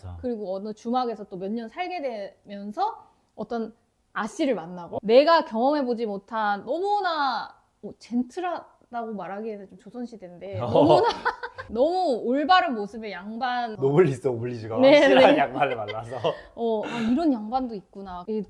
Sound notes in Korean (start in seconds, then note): 10.6 ㅋㅋ